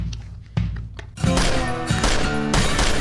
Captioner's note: gunfire